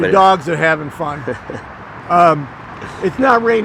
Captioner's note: laughing